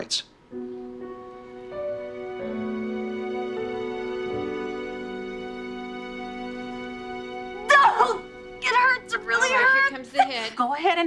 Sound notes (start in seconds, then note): 7.6 groans